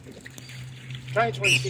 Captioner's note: birds splash in water